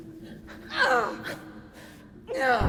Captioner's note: Keo groans and struggles